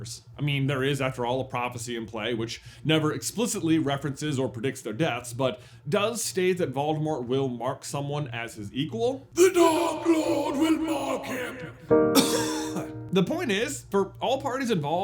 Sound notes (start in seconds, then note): 9.3 Trelawney voice; 12.1 cough